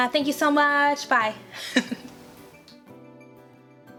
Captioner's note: laughs; gentle pop instrumental music